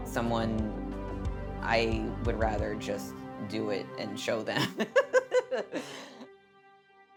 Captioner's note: laughing